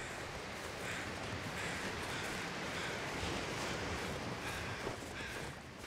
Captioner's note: the ocean waves & crows caw